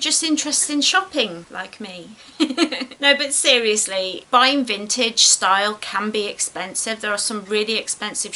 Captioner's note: giggles